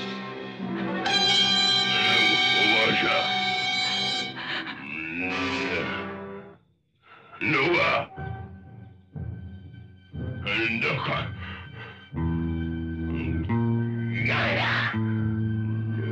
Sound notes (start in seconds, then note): 4.5 grumbling; 7.1 caveman speaking; 10.0 caveman speaking; 14.4 animal scream